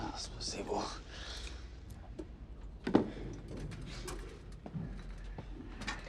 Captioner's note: Teplov speaking in foreign language